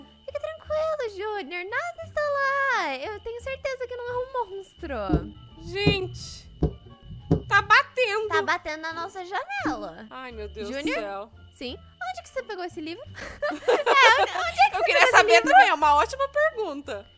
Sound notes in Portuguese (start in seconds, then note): 5.1 Batidas na porta; 13.1 Risadas